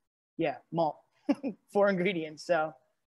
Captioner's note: laughs